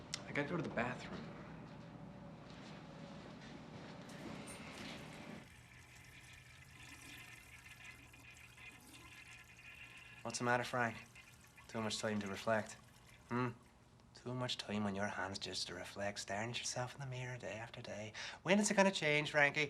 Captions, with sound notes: - I got to go to the bathroom. (water splashes) What's the matter, Frank? Too much time to reflect? Hmm? To much time on your hands just to reflect, starin' at yourself in the mirror, day after day. When is it gonna change, Frankie?